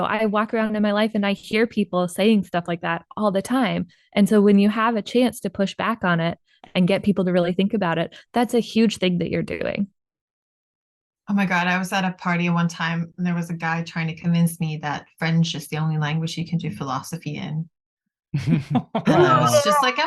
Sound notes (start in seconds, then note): 18.3 laughter